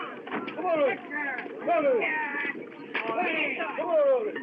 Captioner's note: men Shouting